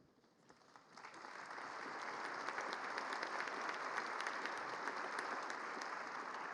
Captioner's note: applause